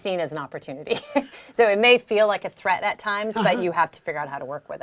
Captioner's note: laugh